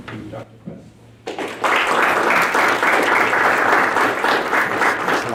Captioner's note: audience applauding